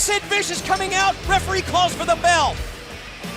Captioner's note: bell ringing